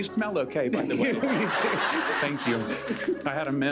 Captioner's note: laughter